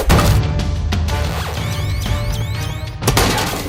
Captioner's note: counter crackling and beeping; robotic voice